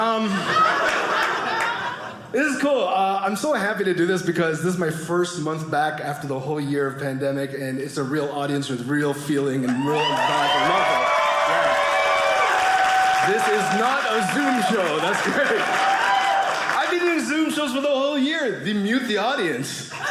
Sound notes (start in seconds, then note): 0.1 audience laughing; 9.6 audience cheering